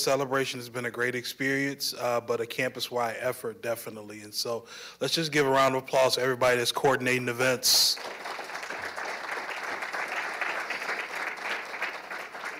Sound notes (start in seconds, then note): 7.7 applause